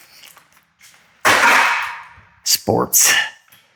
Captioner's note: clatters lustfully